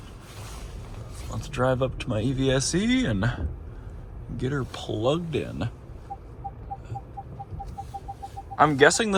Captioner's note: beeps from PDC